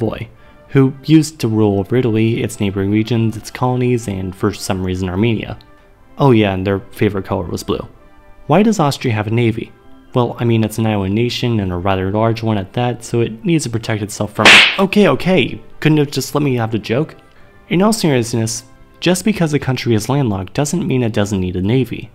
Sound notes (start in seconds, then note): 14.4 slap